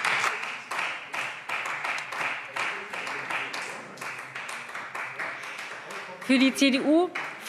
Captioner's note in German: Beifall Freie Demokraten